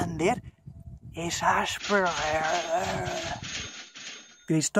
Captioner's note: massive money sounds